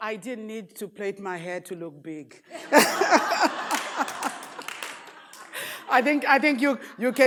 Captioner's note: audience laughs